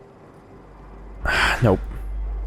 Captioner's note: sigh